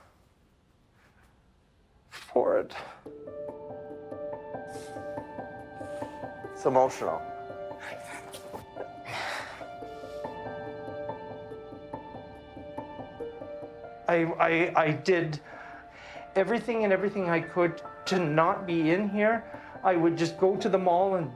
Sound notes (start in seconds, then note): 3.3 solemn music; 7.7 crying softly